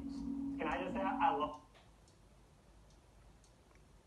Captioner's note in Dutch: TV gaat uit